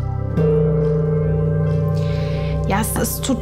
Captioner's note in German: gong